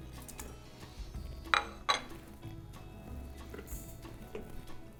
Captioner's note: plate rattles